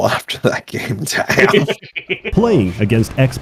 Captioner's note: expressions of mirth